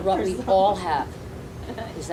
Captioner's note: laughing